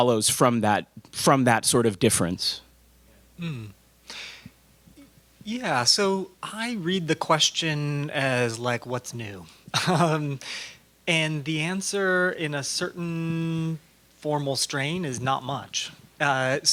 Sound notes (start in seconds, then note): 9.7 laugh